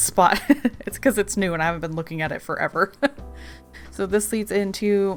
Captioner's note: laughs